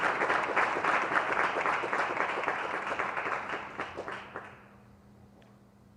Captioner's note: applause